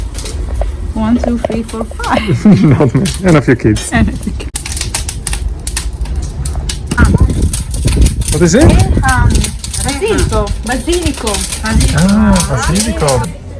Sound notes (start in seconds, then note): 2.0 laughing; 4.4 crackling fire sound